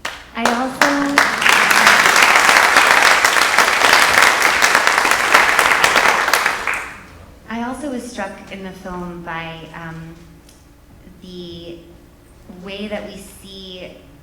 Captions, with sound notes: I also-- (audience applauding) (audience applauding) I also was struck in the film by the way that we see